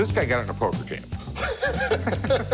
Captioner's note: chuckles